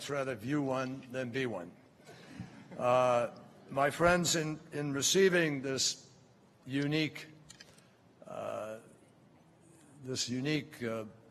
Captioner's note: laughter